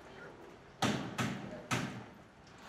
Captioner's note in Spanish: Toques en la puerta